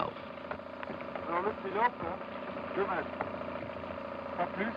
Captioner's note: speaking french